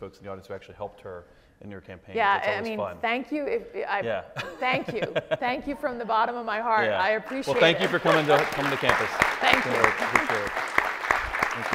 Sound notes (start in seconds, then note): 4.3 laughs; 7.3 audience applauds